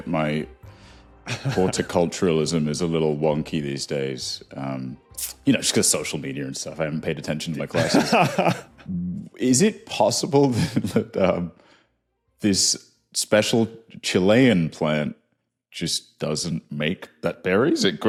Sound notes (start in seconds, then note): 7.7 chuckles; 11.0 cracks up